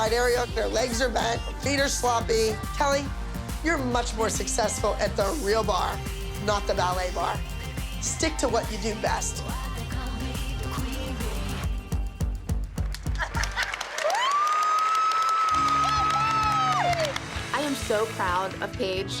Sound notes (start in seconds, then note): 13.1 laughter; 13.2 cheering